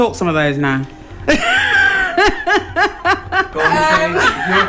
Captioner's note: laughter